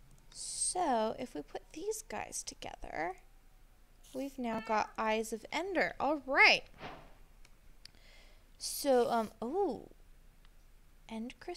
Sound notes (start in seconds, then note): none